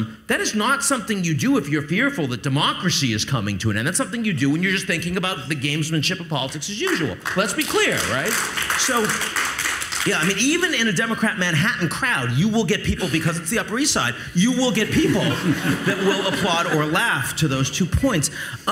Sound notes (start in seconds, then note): 6.8 audience applauds; 14.7 audience laughs